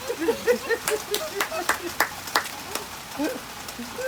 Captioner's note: rain and laughter